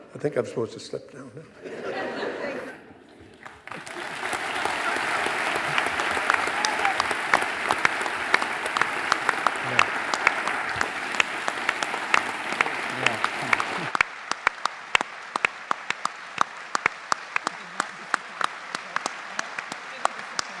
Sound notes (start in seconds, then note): 1.9 audience laughing; 3.9 justices and audience applauding